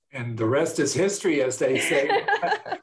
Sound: laughter

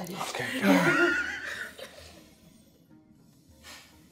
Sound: all chuckling

